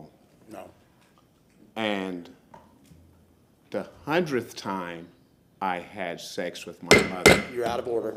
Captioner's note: sounding gavel